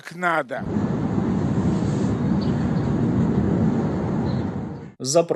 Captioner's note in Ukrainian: вибух